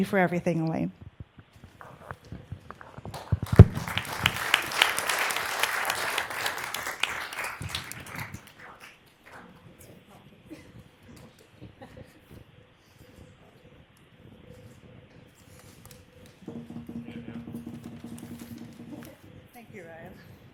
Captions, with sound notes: WHO WAS A REGULAR VISITOR TO CITY HALL. CITY HALL. WE HOPE YOU LOVE THIS AS MUCH AS WE HOPE YOU LOVE THIS AS MUCH AS WE LOVE YOU, THANK YOU FOR WE LOVE YOU, THANK YOU FOR EVERYTHING, ELAINE. EVERYTHING, ELAINE. [ APPLAUSE ]